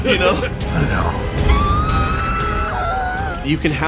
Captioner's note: screams